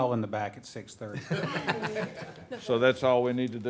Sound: board members laughing

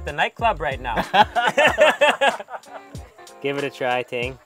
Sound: all laughing

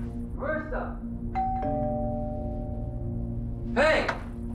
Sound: doorbell rings

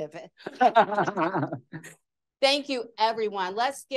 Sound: laughter

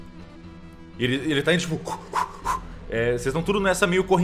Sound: gasping for air

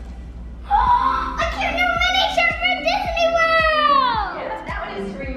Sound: bright music; gasps

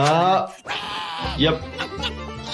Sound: Eric screaming

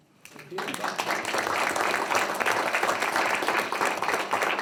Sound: group clapping

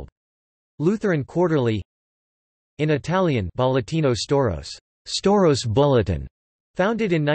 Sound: in Italian

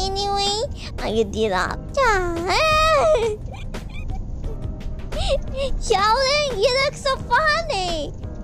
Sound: laughing

